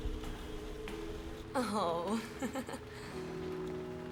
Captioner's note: laughs